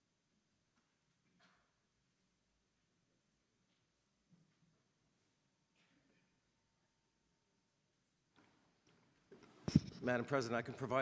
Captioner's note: silence